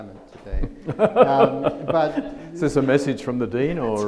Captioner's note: laughs